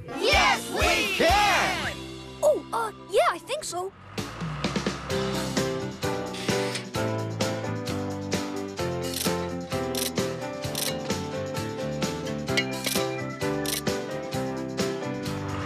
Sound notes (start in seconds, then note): 6.4 door Creaks; 8.9 ratchet Clicking; 12.3 clanking